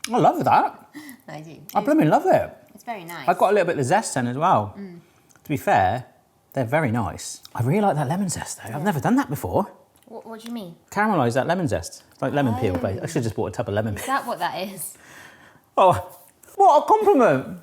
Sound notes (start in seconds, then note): 13.8 chuckles